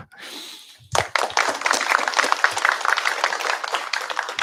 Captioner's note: applause